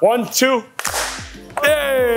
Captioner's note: group claps